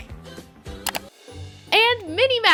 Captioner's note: clicking